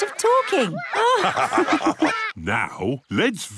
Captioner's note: all laugh